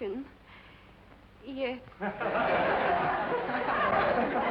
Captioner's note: laughter